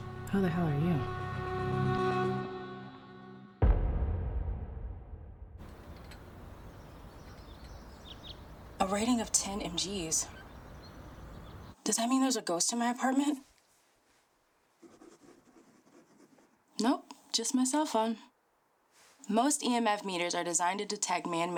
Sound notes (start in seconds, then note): 2.5 ominous music; 7.3 birds twittering; 14.8 pen scratching